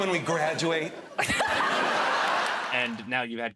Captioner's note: laughter